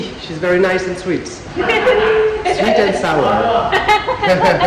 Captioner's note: laughing